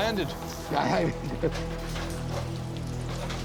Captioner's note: laughs; dramatic music plays